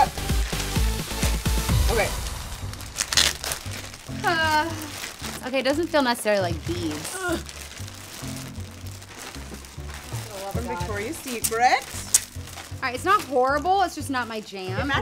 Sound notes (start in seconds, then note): 0.0 thrilling upbeat music; 7.1 grunts